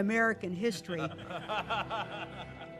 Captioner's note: laughing